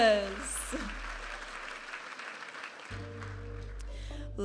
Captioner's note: audience applauding; vibrant music